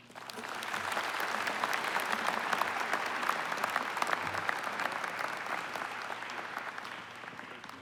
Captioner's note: applause